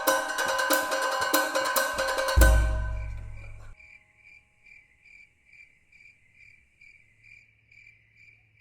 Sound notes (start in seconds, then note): 1.5 crickets